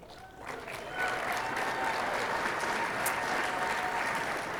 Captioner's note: audience applauding